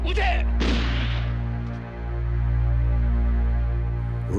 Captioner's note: speaking japanese; gunshot